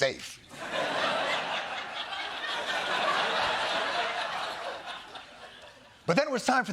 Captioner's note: laughter